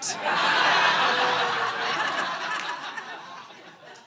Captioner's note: audience laughing